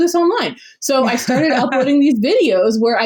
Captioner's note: laughs